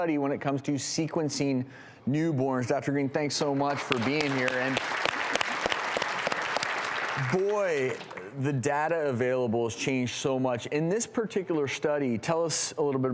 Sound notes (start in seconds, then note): 3.5 applause